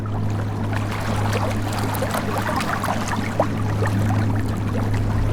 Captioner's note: water splashing